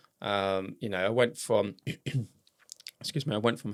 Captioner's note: coughs